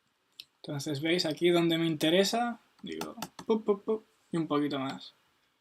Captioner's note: pup pup pup